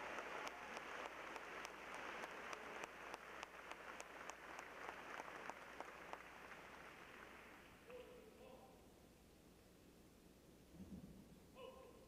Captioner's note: applause